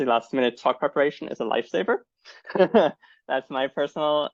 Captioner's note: laughs